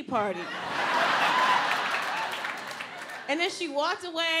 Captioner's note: audience laughs